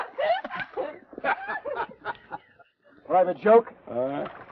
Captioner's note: Laura laughs; Theodore laughs